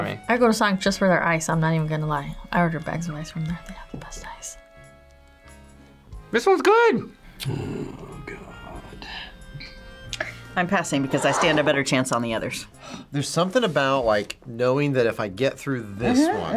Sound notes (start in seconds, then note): 4.1 whispers